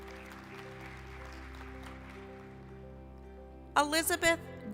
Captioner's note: applause